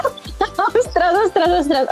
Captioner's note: laughs